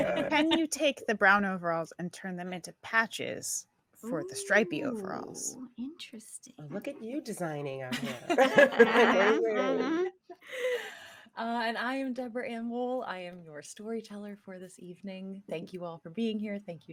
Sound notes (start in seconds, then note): 8.0 laughing